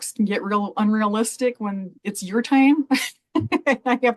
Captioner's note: laughs